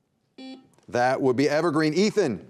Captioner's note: buzzer beeping